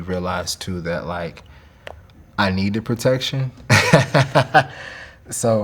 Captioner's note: laughing